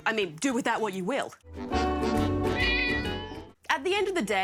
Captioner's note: miaows